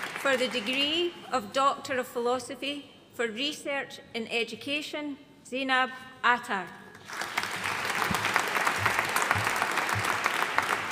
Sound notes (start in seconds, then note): 7.0 audience applauding